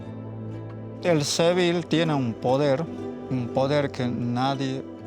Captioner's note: speaking Spanish